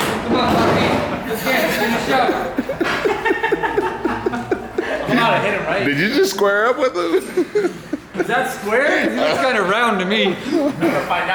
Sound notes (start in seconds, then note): 1.9 all laugh